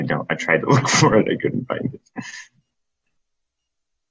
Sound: chuckles

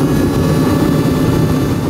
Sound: road Noise

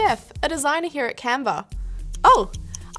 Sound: timer ticks

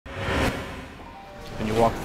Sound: digital Woosh

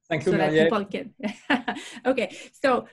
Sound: speaking in foreign language

